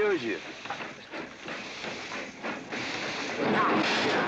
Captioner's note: train chugging past